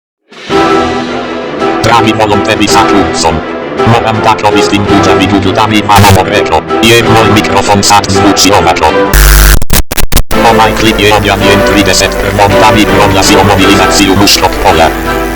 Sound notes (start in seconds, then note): 10.3 sound of 2000W speaker